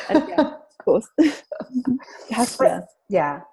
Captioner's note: laughs